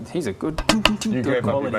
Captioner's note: ting ting ting